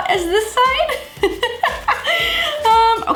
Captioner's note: laughs